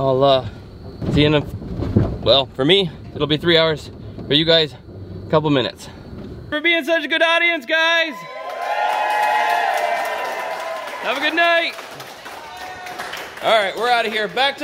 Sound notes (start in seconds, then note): 7.7 crowd cheering